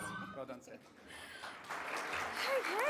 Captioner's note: applause